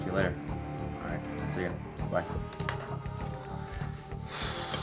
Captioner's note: exhales